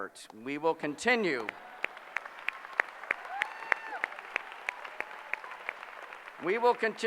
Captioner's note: applause